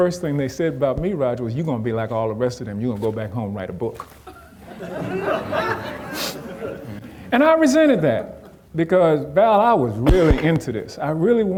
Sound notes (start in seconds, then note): 4.6 audience laughing